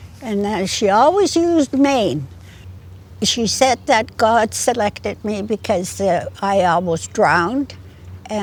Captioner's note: in Gitxsan